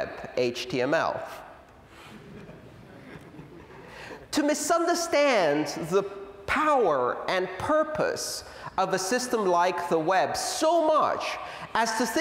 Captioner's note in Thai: หัวเราะ